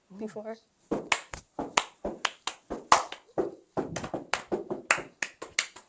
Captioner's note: claps while stomping feet